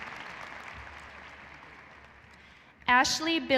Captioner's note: cheering and applause